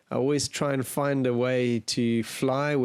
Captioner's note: none